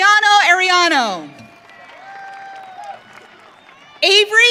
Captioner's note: audience cheering